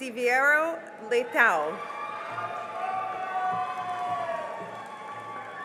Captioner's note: cheering and applause